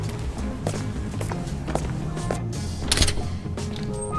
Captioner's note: footsteps and door noise